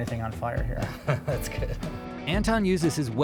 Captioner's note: laughing